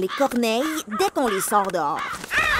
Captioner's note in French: chants des corneilles